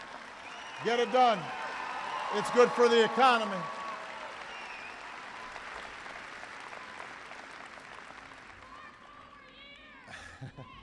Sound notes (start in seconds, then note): 0.0 applause; 6.1 applause